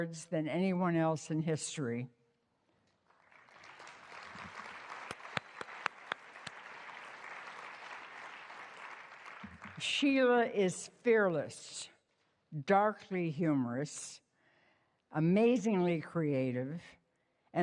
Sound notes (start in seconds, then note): 3.0 applauding